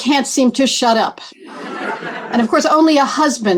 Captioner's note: laughter